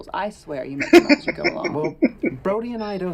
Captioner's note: laughing